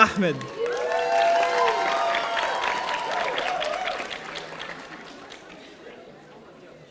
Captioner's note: audience cheering; audience applauding